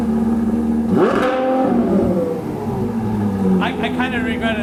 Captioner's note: car engine revs